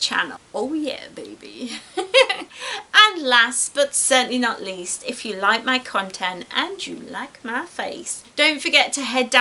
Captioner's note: giggles